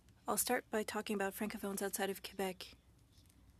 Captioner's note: speaking French